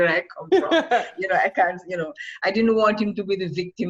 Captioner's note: laughs